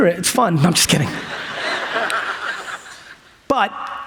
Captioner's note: audience laughs